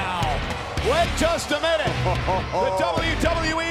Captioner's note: laughs